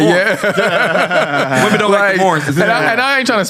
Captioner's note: laughs